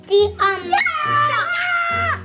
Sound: screaming

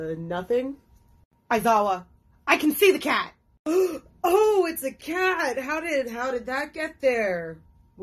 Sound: gasp

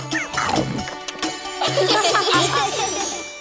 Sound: laughing

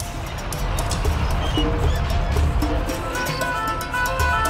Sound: tractor rumbles

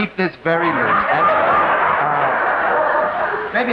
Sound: audience laughing

